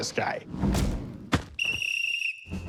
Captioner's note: whistle blowing